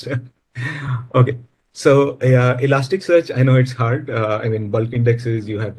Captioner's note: laughs